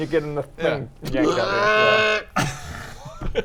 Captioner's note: alien sheep noises? idk